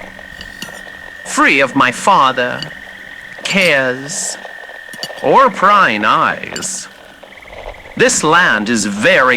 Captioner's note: scraping plate fx